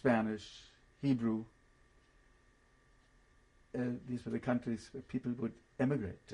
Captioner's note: pauses for 3 seconds